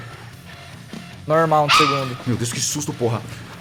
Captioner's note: bark